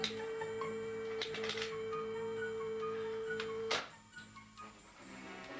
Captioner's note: phone clicking; dramatic music